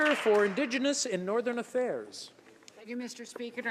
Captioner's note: some Applause